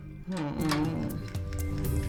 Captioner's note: groaning